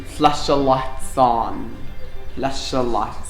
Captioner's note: murmurs